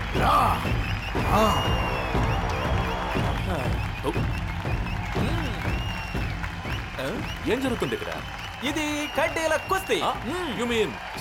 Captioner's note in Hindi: तालियाँ